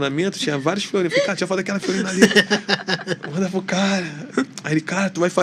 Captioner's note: risadas